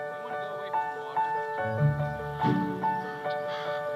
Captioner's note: instructor speaking faintly; crow cawing